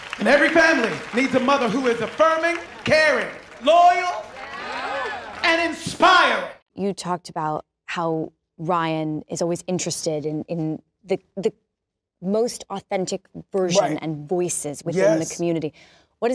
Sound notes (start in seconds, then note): 4.2 whoops from crowd